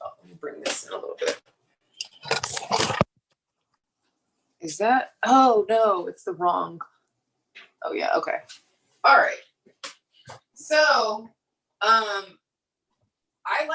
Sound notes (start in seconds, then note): 2.0 microphone shuffling